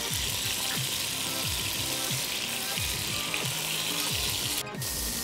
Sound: chicken sizzles

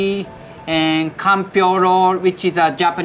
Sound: text chiming

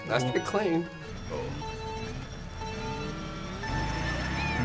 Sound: countdown beeps

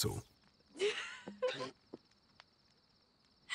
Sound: laughter

